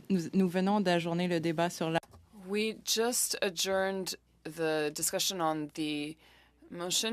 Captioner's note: speaking French